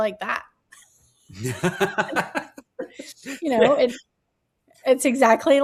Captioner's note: laugh